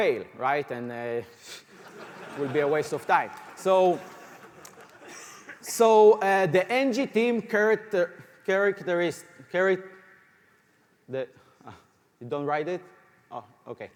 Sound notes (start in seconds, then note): 3.8 laughter